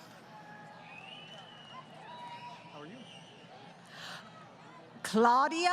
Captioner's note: crowd Cheering